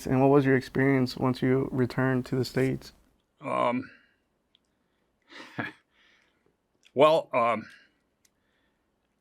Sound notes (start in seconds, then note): 5.2 chuckles